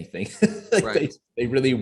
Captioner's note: chuckles